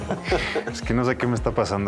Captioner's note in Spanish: Risas